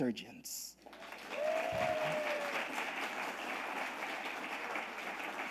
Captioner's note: audience applauding